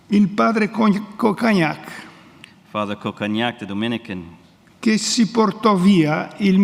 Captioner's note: speaks in Italian